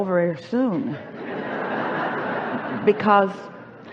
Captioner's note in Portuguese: A plateia ri